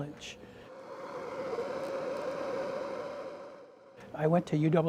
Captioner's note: torch continues hissing